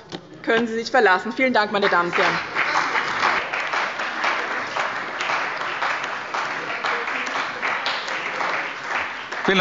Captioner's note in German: Beifall bei dem BÜNDNIS 90/DIE GRÜNEN und der CDU